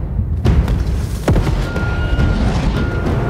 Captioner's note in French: Grondement volcanique